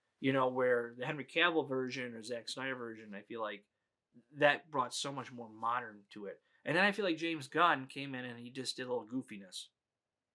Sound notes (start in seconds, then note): none